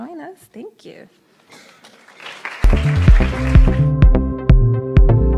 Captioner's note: applauds